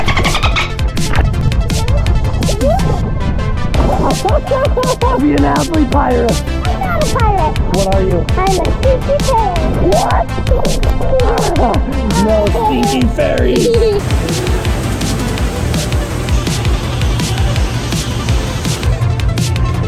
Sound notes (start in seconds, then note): 0.1 upbeat music; 3.9 laughing; 13.9 upbeat music